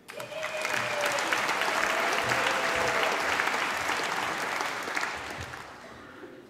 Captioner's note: applause